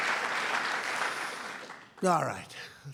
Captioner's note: applause